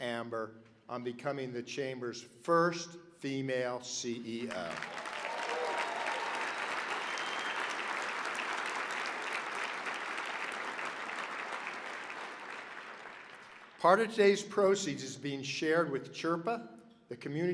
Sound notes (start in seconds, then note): 4.4 applause